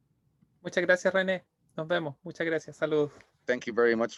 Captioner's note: speaking in Spanish